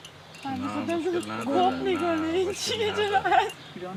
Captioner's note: they speak Farsi